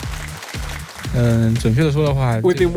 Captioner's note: man speaks mandarin